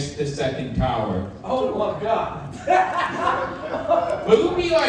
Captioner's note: laughing